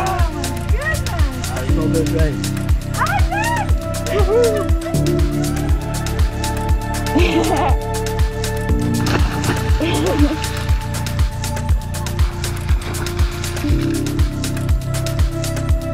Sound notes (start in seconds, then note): 7.0 laughs; 8.7 water splashes